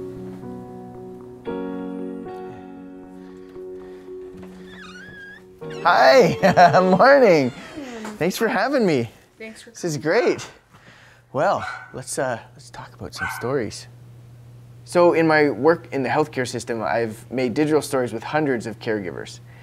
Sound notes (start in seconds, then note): 5.7 laughs